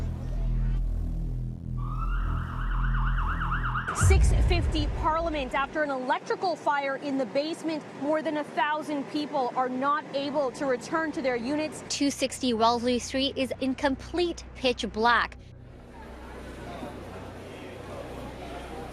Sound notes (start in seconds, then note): 1.7 sirens wailing; 15.7 crowd murmuring